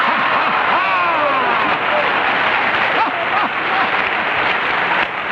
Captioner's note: audience cheering & applauding